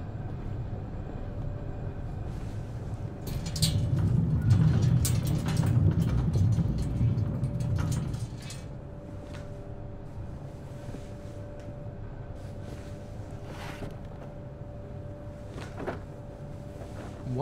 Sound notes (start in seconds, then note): 3.2 crank creaking; 12.3 box scrapes softly